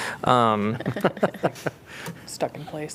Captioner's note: laughter